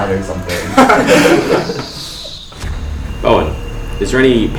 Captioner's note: laughing